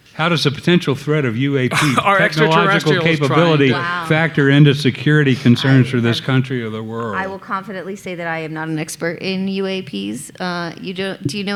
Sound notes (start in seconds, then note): 1.6 laughing